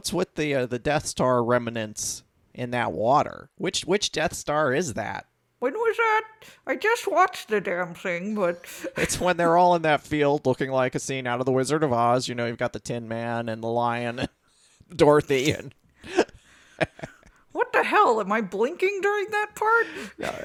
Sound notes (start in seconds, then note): 16.2 laughs